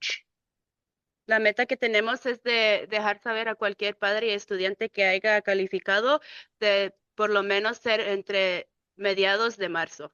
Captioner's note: speaking in Spanish